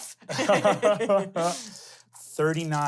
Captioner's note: laugh